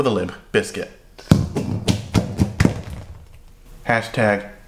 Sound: bowl rattles

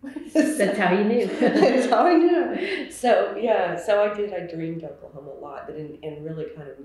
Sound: laughter

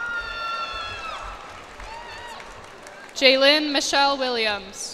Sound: cheers and applause

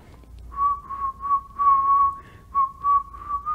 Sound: whistleling

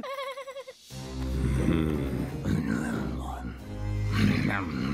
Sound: Scrooge growling; growls and mutters

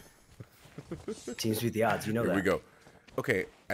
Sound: laugh

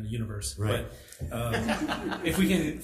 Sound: assembly laughs

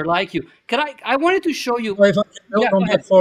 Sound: audio breaks

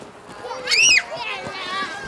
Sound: child screams with glee

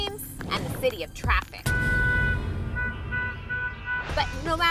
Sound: cars honking

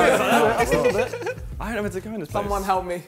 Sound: laughs

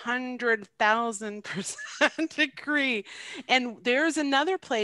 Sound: laughs

